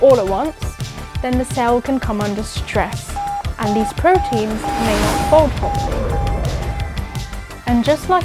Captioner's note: alarm sounding